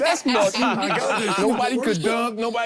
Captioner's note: group laughs